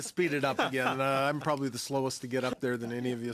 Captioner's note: laughter